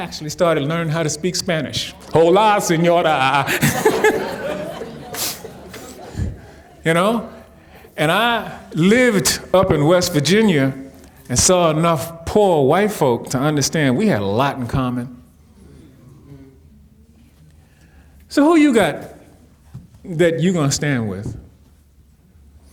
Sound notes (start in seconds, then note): 3.8 audience giggling